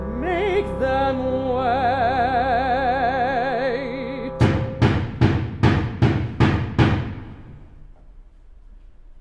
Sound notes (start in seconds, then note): 4.4 pounding on door